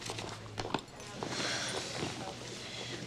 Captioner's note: sighs